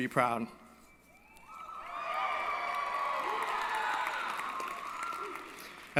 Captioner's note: applause & Cheering